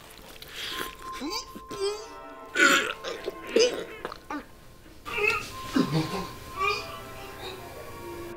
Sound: throws up

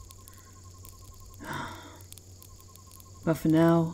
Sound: Scarlet sighs, then gives you a friendly pat, nearly knocking you off your feet

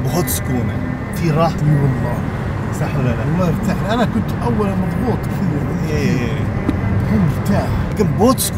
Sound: speaking Arabic

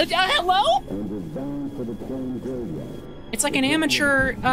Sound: stammering; distorted Voice In-Game

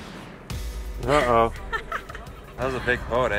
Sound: laughing

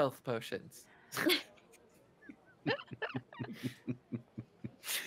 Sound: multiple chuckling

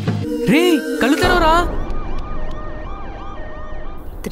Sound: siren sound

